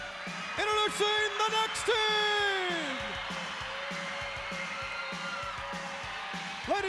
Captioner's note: crowd cheers; upbeat rock music